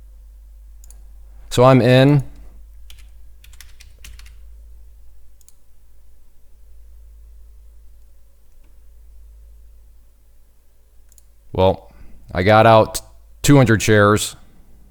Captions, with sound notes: So I'm in. (keyboard clicking) Well, I got out 200 shares.